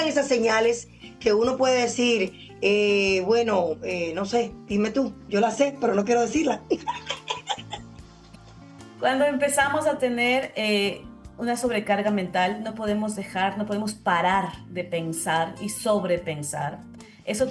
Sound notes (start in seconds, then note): 6.7 laughs